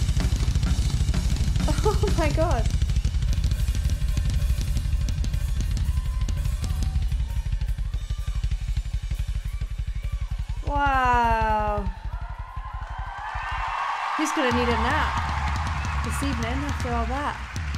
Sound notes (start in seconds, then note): 1.6 laughs